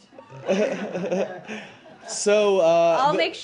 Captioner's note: laughter